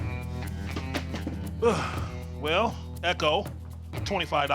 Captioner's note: sighs